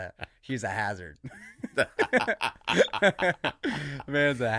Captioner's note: laughing happily